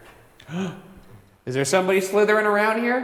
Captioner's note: gasps